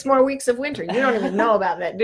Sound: laughs

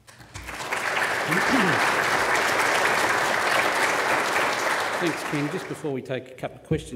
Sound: applause

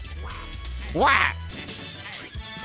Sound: duck Noise

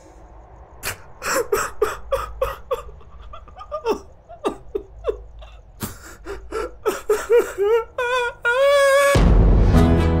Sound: cries

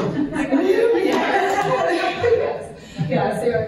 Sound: laughter

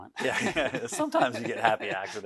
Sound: both laugh loudly

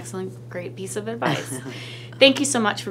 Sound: laughs

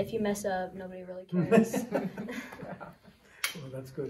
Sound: laughter

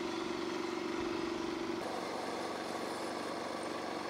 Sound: machine roars

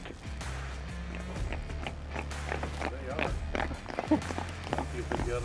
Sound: background chatter

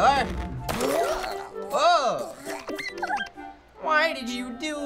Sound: Rabbids squeaking

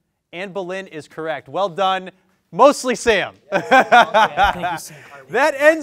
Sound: laughs

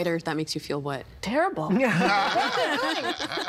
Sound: all laughing

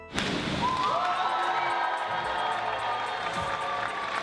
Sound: group cheers

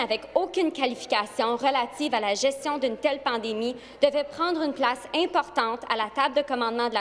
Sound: speaking FRENCH

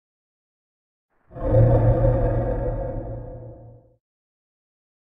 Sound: creature breath

